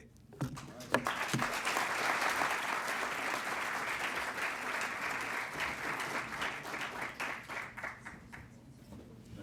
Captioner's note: applause